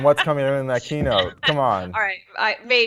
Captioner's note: laugh